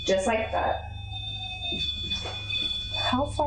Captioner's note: beeping noises